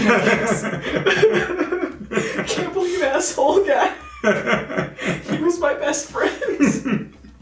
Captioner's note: sobs